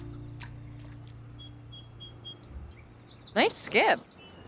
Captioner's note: calming music ends; birds chirping